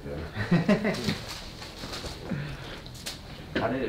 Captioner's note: doctor laughing